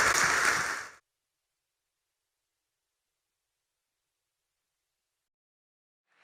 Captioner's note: applause